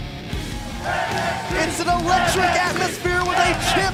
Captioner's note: crowd cheering